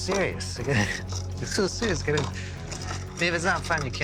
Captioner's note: chuckles